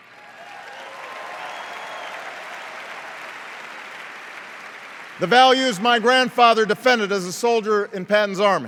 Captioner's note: cheers and applause